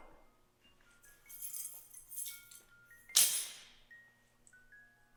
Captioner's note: keys clanging